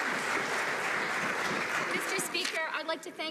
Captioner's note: some Applause